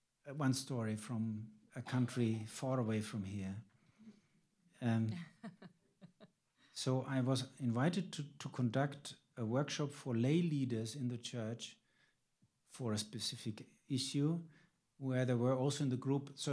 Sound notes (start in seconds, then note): 5.1 laughs